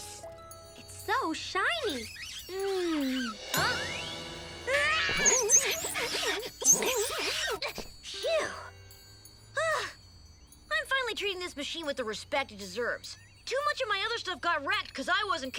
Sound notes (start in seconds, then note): 1.6 finger squeaking; 3.3 dramatic music; 6.8 Milo panting; 6.8 bike squeaking; 9.6 sighing